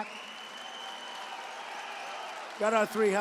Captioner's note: applause